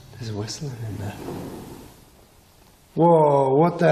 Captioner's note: knocks